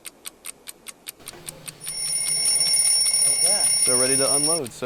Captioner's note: alarm clock sound effect